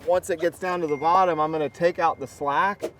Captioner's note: phone alert ping